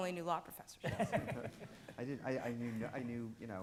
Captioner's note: audience laughing